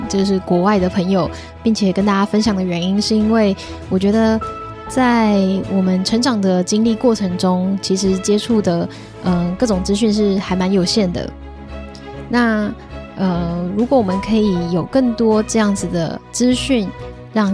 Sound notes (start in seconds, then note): 13.5 speaking chinese